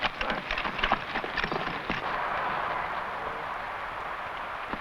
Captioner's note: horse hooves pattering